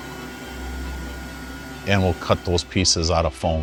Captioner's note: router motor whirring